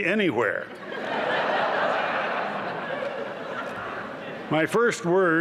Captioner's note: laughter